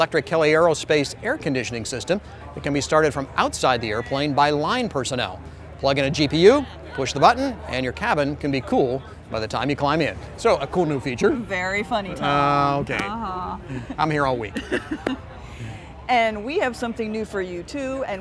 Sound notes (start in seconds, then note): 14.5 laughing